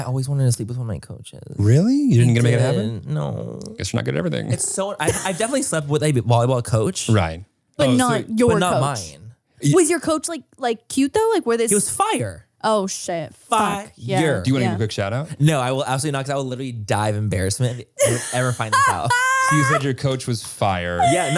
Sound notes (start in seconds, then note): 5.0 laughs